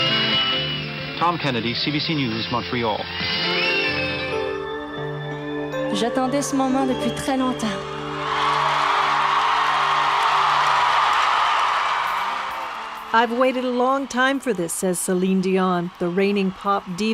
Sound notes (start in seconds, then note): 0.2 cheering; 7.7 speaking in French; 12.2 audience cheers